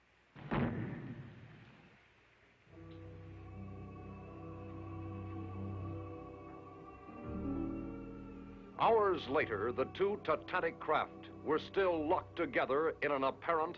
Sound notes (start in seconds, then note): 0.4 thuds